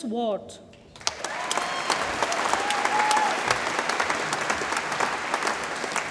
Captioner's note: audience applauds and cheers